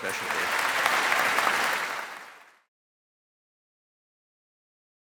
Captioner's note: audience applauding